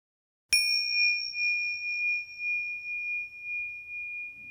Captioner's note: bell chimes